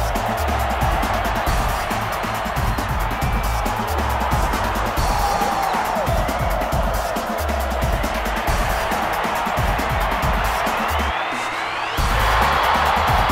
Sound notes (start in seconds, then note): 0.0 crowd taunting; 0.3 crowd cheering; 6.1 crowd taunting; 8.3 crowd cheering; 12.1 cheering gets louder